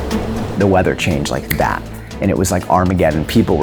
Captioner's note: snaps finger